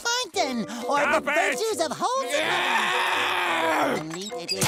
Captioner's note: screams